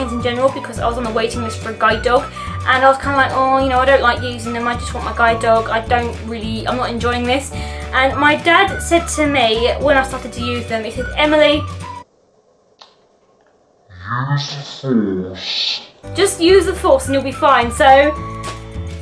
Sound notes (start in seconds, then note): 13.3 speech in slow motion